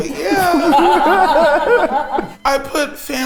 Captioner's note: everyone laughs